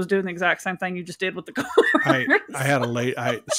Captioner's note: laughs